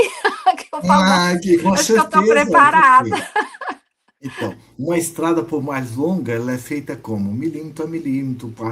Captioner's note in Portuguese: risadas